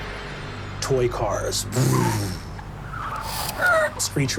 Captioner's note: tires squealing